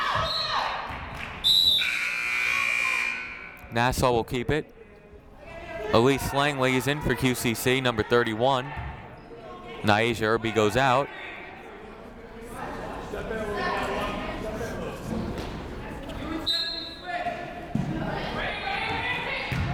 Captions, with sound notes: (siren buzzing) Nassau will keep it. Alice Langley is in for QCC, number 31. Ny'Asia Irby goes out.